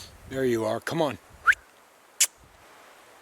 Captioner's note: whistles